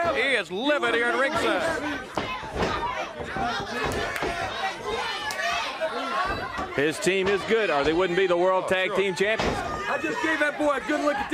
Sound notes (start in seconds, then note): 2.5 crowd chatter